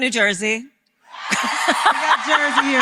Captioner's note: applause; laughter